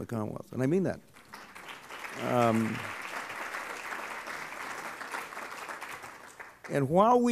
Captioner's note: clapping